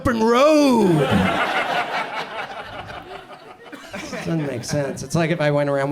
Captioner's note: audience laughs